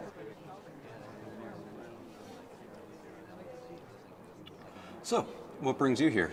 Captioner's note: indistinct chatter